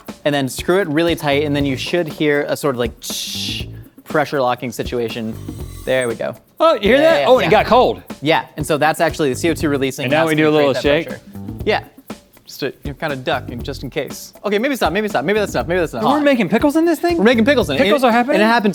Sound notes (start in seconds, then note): 3.1 makes a hissing sound; 5.2 canister hisses; 12.7 stammers